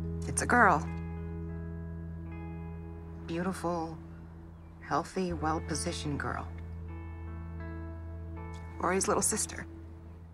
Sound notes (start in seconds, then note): 8.0 voice breaking